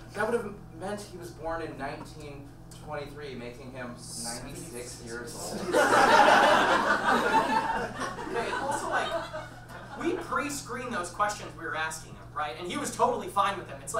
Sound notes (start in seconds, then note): 5.5 audience laughs